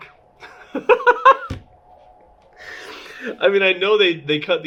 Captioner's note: laughing